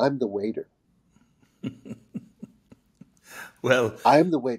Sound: José chuckling

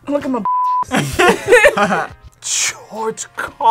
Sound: both laugh

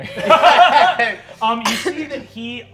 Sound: all laughing

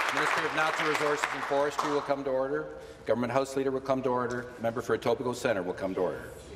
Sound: applause

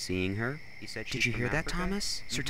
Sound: whispers

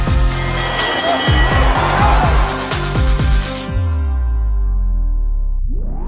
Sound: bell dinging; fans cheering

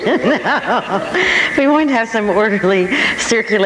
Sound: laughing

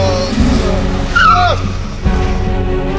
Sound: tires squeal

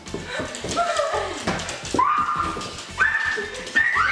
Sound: excited screams

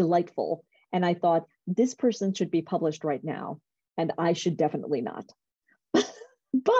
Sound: laughter

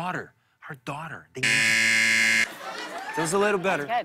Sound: buzzer

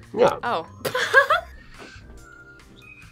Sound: laughs

